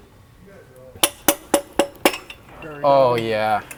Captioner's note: tool tapping